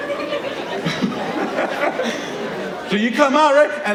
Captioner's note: audience laughing